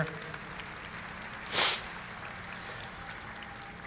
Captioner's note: audience applauding